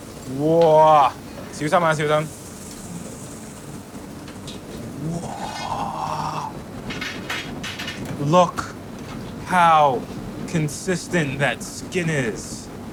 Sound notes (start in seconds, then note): 0.6 speaks in foreign language; 6.8 metal clanking